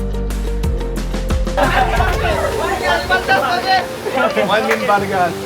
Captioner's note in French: parle une langue locale en argot